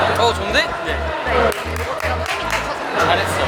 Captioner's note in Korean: 박수